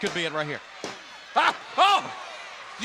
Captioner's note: hand tapping